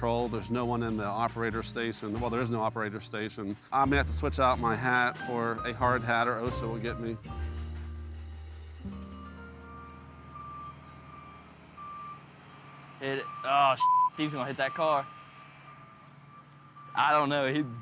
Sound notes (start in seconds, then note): 10.2 machine beeping; 13.2 beep